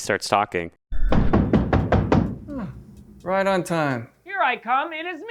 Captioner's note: knocking on the door